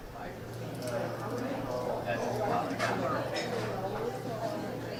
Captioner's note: all chattering